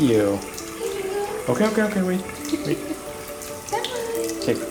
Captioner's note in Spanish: Risas